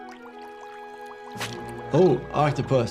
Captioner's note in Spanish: agua burbujeante